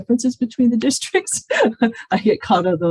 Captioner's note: laughs